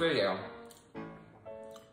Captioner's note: swallow